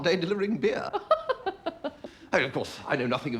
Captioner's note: laughs